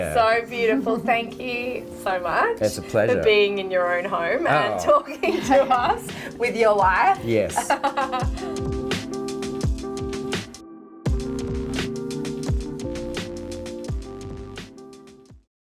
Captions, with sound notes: So beautiful, thank you so much for being in your own home. And talking with us with your wife. - Yes. (laughing) (soft music)